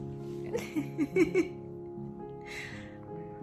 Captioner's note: giggling